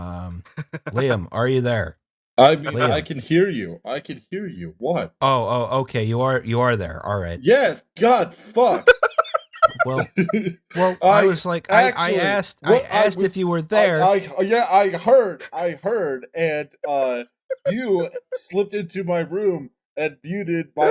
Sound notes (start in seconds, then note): 11.1 laughter